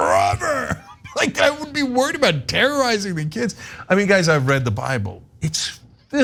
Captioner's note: laugh